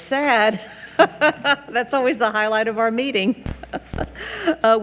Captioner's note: laughs